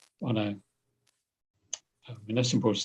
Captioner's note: none